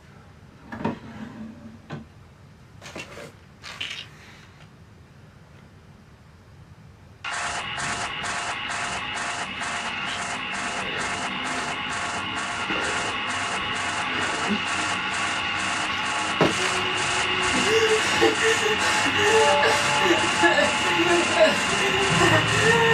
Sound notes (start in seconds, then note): 3.6 pills rattle; 7.9 unsettling music; 16.6 Billy whimpering; 17.9 intense music